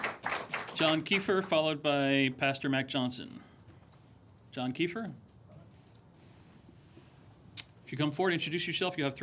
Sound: applause

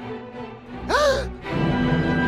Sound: gasps

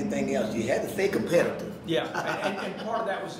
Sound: laughing

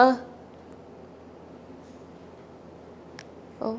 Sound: silence

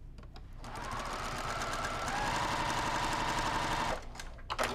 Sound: sewing machine whirling

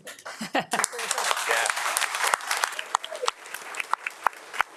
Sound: audience applauding

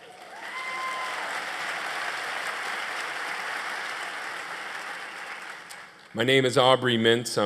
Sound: applause

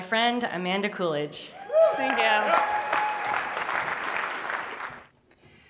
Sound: applause

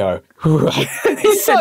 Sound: laughs

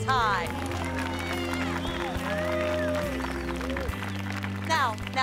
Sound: crowd applauding

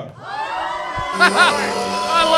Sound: cheering

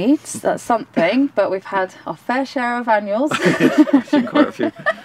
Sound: laughs

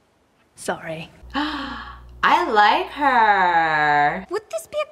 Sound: gasps

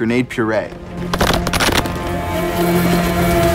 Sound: thunking; whirring

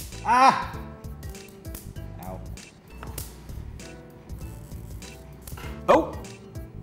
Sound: snapping sound

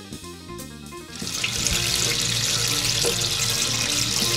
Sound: water splashing

